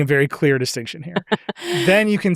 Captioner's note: chuckles